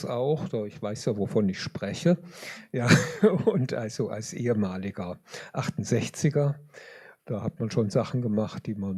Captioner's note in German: gelächter